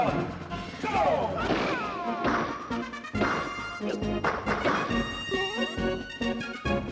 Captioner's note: Super Smash Bros. sounds